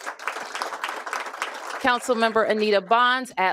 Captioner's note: applause